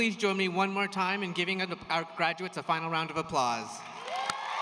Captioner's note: cheers and applause